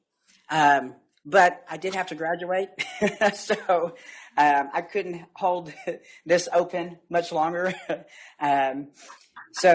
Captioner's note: laughter